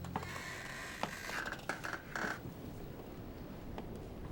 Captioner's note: floor creaking